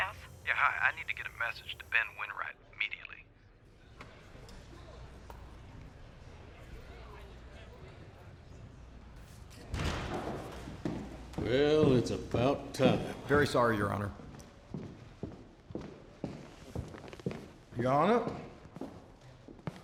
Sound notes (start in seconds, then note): 2.7 people chattering softly; 10.0 doors open, footsteps; 15.6 footsteps